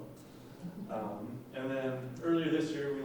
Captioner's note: laughing